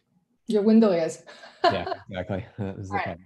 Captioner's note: laughs